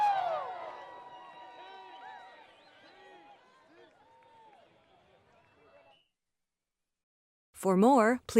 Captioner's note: applause